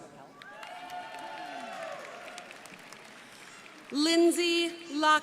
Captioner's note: crowd applauding